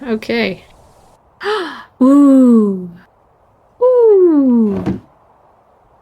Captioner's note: gasp